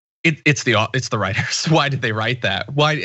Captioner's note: laugh